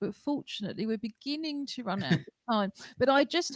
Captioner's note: laughter